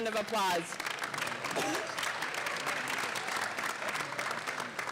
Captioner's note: audience clapping